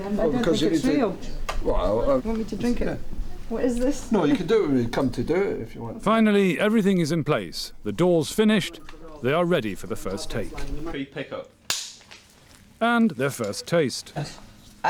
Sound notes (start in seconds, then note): 11.7 snap!